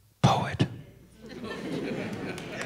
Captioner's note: laughter